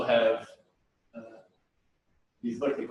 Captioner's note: pause